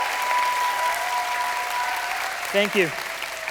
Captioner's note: applause